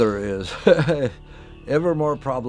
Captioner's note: laugh